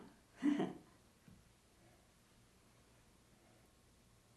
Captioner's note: laughing